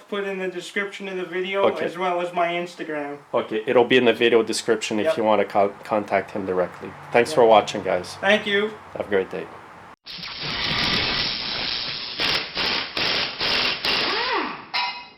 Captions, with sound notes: to put in the description of the video, as well as my Instagram. - Okay. It'll be in the video description if you want to contact him directly. Thanks for watching guys. - Thank you. - Have a great day. (mechanical tools buzzing)